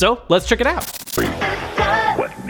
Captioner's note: static